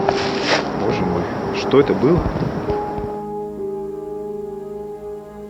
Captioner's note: speaking in foreign language